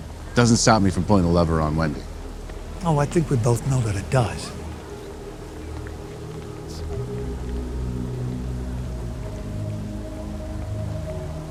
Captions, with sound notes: It doesn't stop me from pulling the lever on Wendy. - Oh, I think we both know that it does. (Derek whispers)